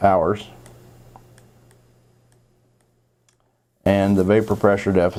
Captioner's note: mouse clicking